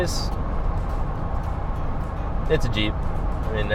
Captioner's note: car engine roaring